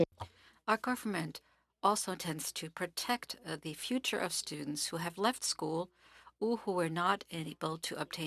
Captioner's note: speaking French